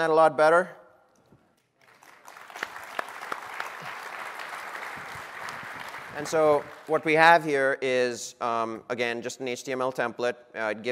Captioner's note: applause